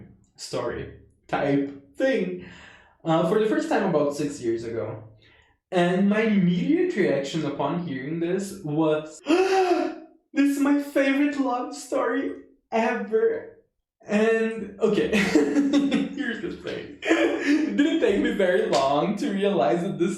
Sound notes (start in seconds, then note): 9.2 big gasp; 14.8 laughs